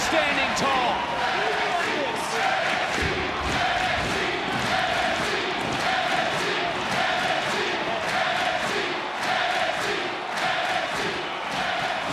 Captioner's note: crowd chant "NXT"